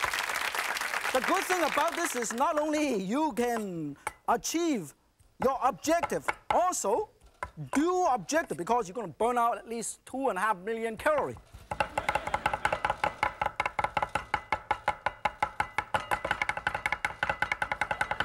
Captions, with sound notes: The good thing about this is not only you can achieve your objective. Also, dual objective because you're going to burn out at least two and a half million calorie. (audience laughing) (knives tapping)